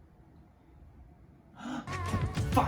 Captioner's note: deep Breath